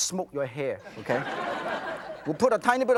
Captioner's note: audience laughs